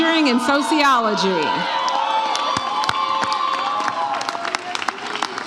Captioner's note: audience cheers